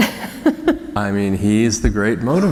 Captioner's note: laughter